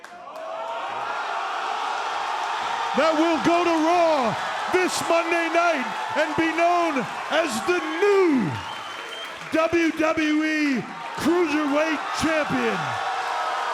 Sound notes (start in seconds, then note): 0.7 crowd exclaiming